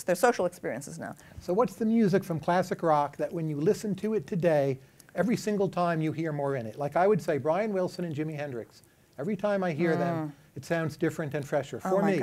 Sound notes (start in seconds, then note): none